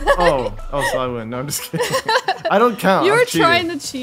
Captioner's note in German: Gelächter